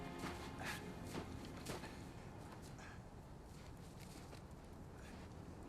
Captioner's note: Bill breathing heavily